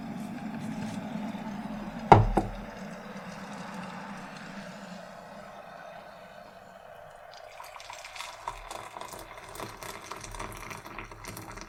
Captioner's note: boiling water is poured